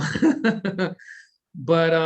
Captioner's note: laughs